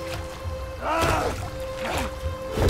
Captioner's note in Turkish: Bağırma; Yumruk Sesi